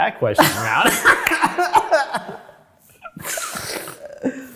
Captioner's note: both laugh loudly